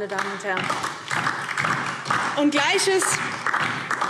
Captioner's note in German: Beifall DIE LINKE